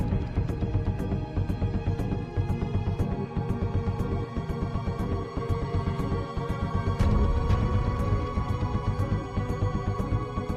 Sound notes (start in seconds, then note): none